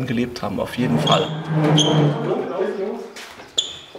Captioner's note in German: Quietschen, leises Gespräch